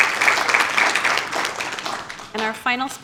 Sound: applause

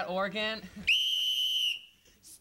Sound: whistle blowing

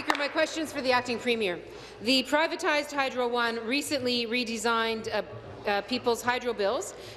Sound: applause

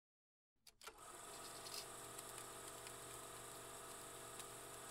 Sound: film reel spinning

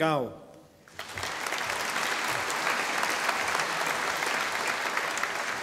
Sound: audience applauding

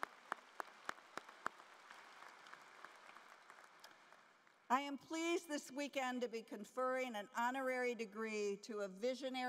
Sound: applause

